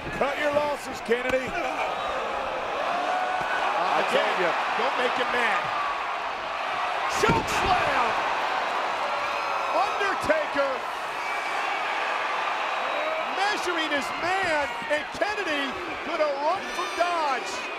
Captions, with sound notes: Cut your losses, Kennedy. I told you. Again, don't make him mad. Chokeslam! Undertaker. (crowd cheers) Measuring his man, and Kennedy gonna run from dodge.